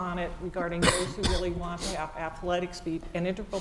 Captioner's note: cough